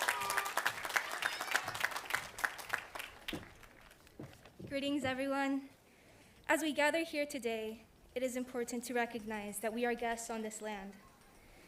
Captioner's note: applause